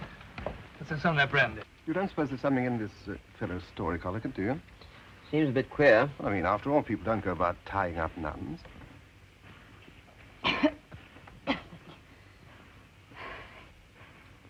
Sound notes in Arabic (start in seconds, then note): 10.4 سعال; 12.6 تنهد